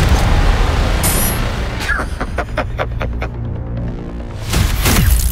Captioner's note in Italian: risata